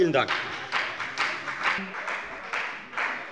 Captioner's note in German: Beifall bei der FDP